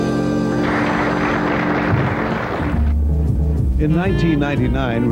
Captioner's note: audience applauds